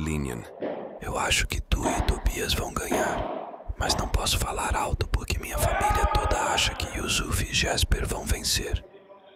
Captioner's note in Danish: Hvisker på portugisisk